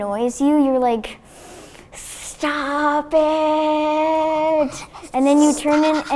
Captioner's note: sniffs